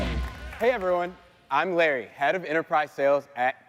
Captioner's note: applause